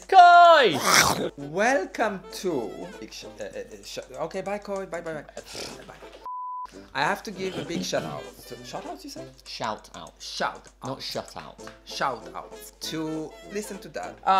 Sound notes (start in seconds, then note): 0.8 snort; 3.0 stutters; 5.4 snort